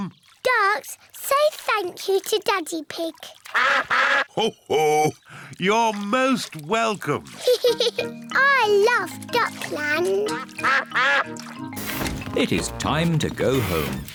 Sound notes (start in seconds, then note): 3.5 all quack; 7.4 giggles